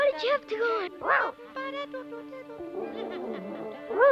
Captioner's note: Arrow barking